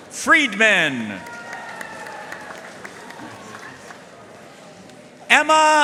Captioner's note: audience cheering and applauding